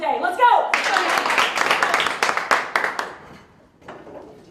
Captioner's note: applause